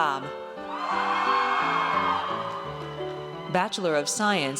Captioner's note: audience cheers